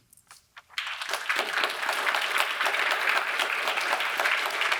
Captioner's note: audience applauds